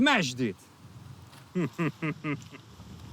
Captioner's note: chuckles